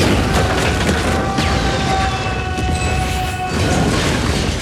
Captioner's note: Dwayne screaming